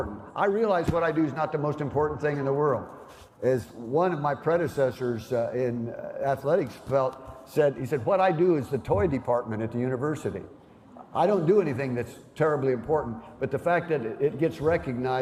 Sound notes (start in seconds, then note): none